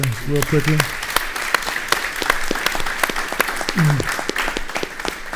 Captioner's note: audience applauding